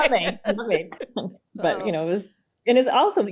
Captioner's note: laughs